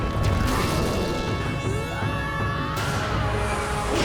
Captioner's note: screaming